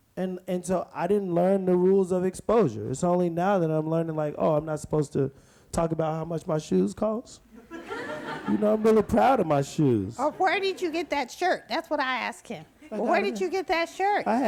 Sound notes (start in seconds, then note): 7.5 audience laughs